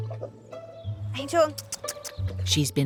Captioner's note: making kissing sounds